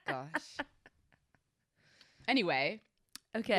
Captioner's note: laughs